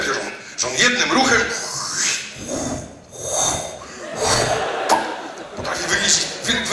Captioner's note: gulps and slurps